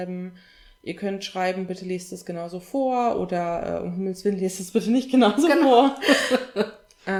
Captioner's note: both laugh